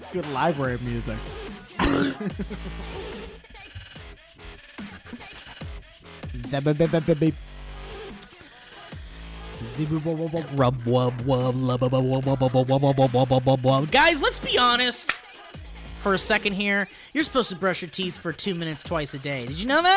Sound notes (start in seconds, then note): 1.7 belch